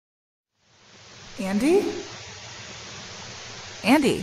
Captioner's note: faint audio hiss; Liz's voice, distorted